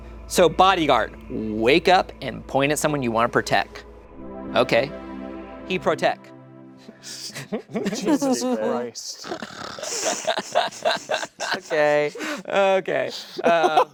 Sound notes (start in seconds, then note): 9.1 laughing